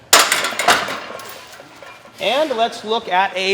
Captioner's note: metal clanking